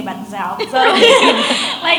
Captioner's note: audience laughs; laughs